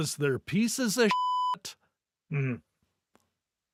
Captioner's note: beep